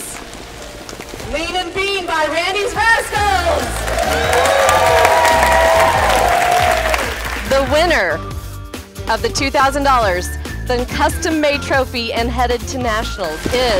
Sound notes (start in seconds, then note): 2.5 crowd cheers and applauds; 3.6 upbeat music